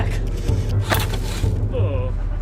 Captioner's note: wood snapping